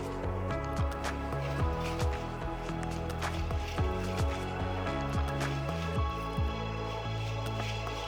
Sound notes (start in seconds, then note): 0.0 light upbeat music continues; 1.1 dresses jingling